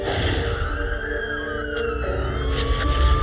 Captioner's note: sirens